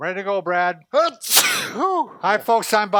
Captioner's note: sneezes